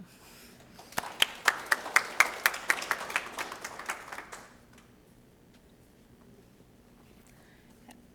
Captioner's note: applause